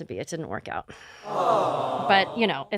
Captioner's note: awws